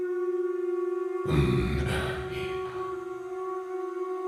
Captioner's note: grunt